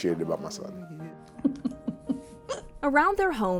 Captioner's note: chuckling